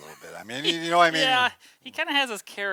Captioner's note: laughs